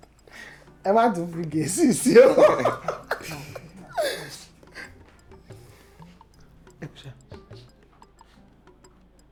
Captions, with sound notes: but don't include any English this time. [Laughs]